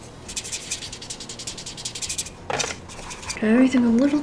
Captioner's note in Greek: Τρίψιμο μαρκαδόρου σε χαρτί